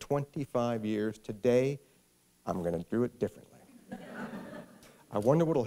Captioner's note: laughter